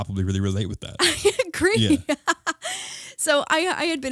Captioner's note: laughing